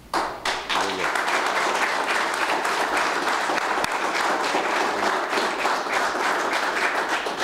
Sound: applause

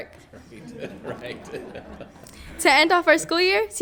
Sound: group laughs

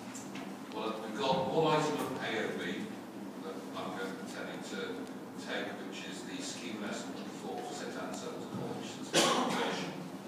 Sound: coughs

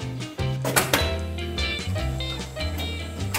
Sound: clacking, whirring

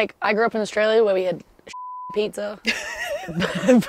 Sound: beep

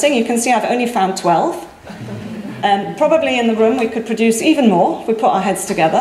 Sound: audience laughs

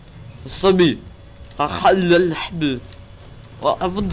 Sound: arabic impression

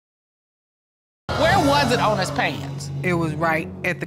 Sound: audience exclaiming

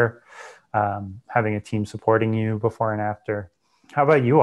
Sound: breath

